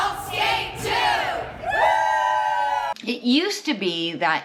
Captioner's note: all cheering